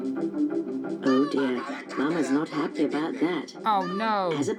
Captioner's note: pingu shouted angrily